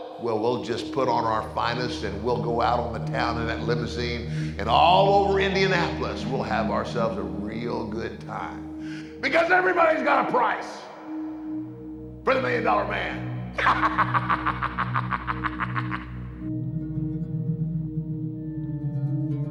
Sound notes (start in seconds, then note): 13.5 laughing; 16.2 soft intense music